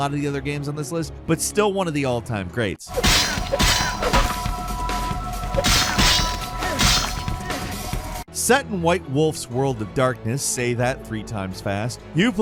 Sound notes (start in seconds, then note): 2.9 weapons clashing; 5.9 upbeat music